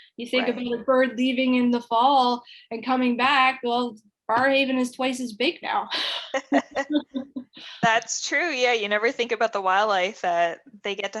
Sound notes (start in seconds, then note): 6.0 laughter